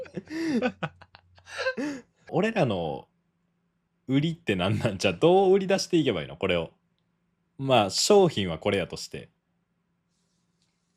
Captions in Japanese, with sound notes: [息をのむ音][笑い] ま、商品はこれやとしてキャッチコピー何俺たちの?え、それはお前毎回言ってるやん。